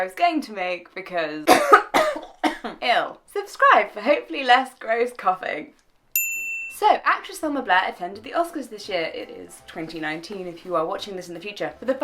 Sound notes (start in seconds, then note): 1.4 cough; 6.1 ding